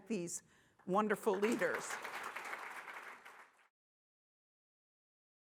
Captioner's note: audience applauding